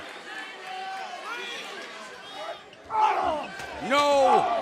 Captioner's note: crowd chatter